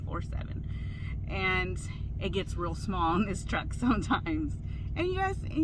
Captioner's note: chuckles